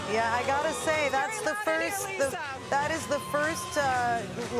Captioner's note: cheering and Applause